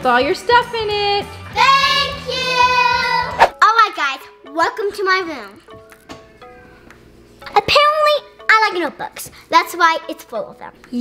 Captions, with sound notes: all your stuff in it. - [Children yelling] Thank you! - Alright guys, welcome to my room. Apparently, I like notebooks. That's why it's full of them.